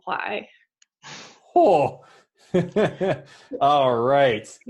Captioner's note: laughs